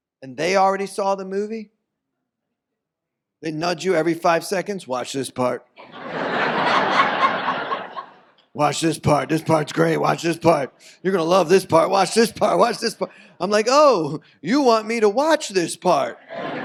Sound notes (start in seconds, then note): 5.8 audience laughs